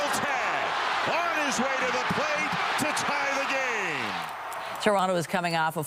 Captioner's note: applause